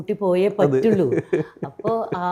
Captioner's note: laughs